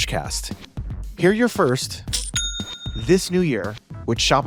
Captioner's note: cha ching